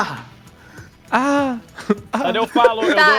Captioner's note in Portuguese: Ecoando; Risada